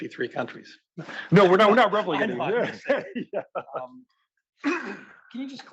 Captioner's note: cough